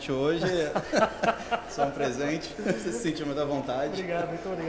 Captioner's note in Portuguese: risos